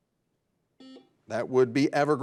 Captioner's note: buzzer dings